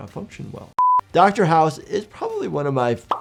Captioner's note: alarm beeping